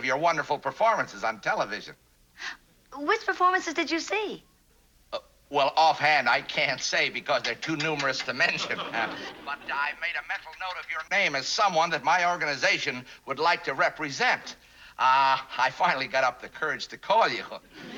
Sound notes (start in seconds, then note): 7.4 tapping